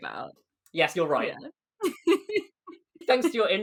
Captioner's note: laughs